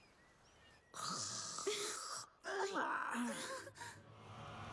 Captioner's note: snoring